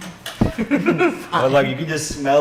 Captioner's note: laughing